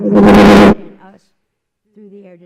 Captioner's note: loud Microphone Noise